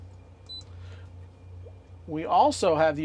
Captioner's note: beep